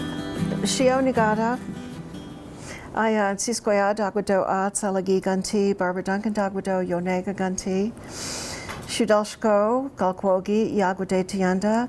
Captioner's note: speaks in Cherokee